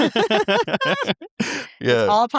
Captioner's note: laughing